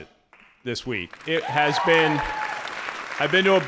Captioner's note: audience applauding